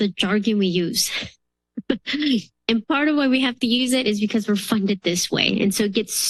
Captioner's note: laughs